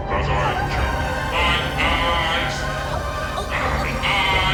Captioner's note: Mia moaning; dramatic music